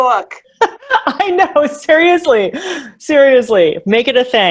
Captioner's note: laughs